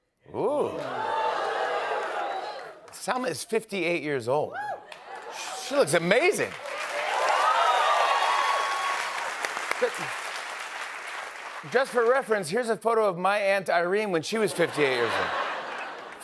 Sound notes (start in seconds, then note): 6.9 cheers and applause